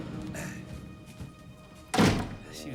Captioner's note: slams door